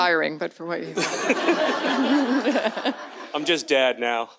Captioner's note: audience laughs